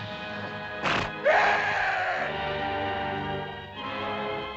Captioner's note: beast snorts; Akhoba screams; dramatic music